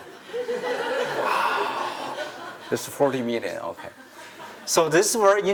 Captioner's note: laughter